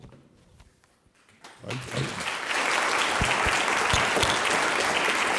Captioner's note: audience applauding